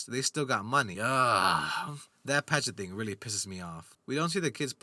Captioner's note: sigh